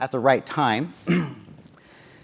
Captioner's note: cough